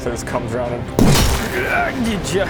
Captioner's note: boof!